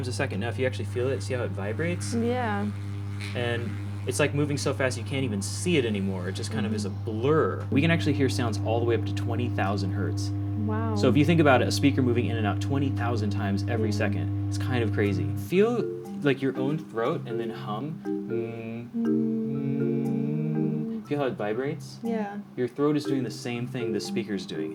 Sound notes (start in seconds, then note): 2.9 low hum; 19.3 humming together